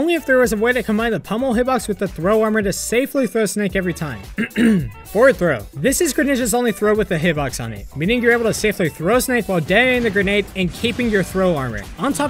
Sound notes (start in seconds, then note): 4.3 clears throat